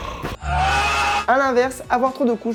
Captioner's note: cries of pain